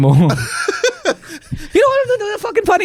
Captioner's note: laughs